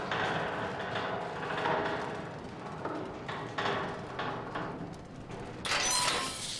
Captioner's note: door opens